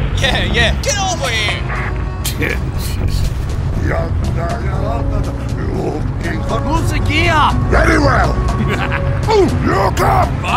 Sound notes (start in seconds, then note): 1.9 The M36 GMC chuckles; 8.4 The M36 GMC laughs